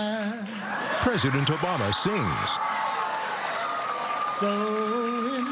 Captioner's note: cheering